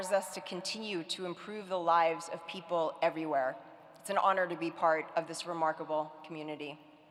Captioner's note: none